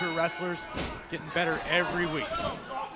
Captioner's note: bell ringing